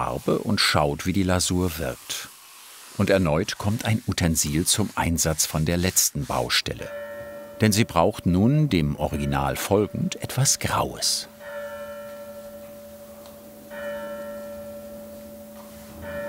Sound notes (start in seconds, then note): 11.6 church bells